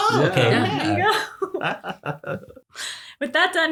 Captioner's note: giggles